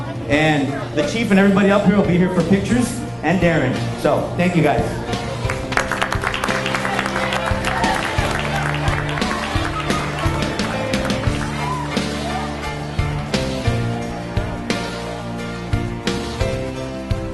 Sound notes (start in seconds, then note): 5.4 people clapping; 6.9 people chattering; 8.7 upbeat music